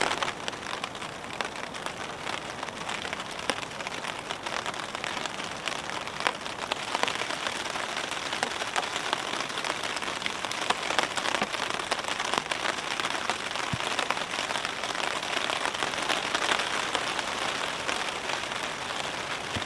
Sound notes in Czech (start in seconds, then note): 9.0 Zvuky zesilující déšť; 18.9 Zvuky silnějšího deště